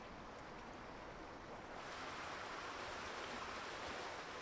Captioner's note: water flowing